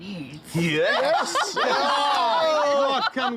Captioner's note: laughter